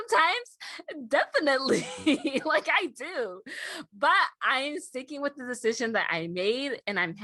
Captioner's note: laughing